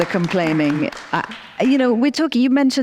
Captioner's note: audience applauds